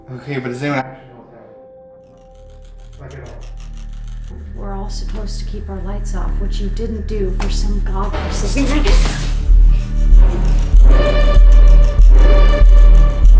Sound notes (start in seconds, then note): 8.2 muffled gasping